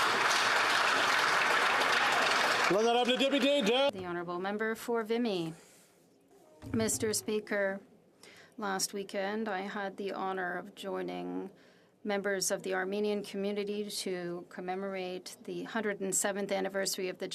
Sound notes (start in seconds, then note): 3.5 applause